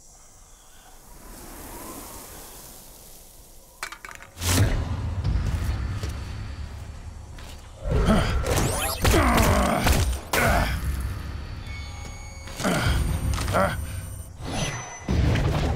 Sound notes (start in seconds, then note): 3.8 clinking; 9.0 grunting; 13.4 grunting